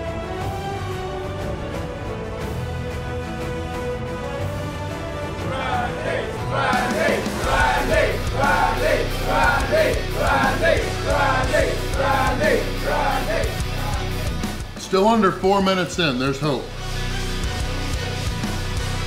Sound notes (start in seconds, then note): 8.8 crowd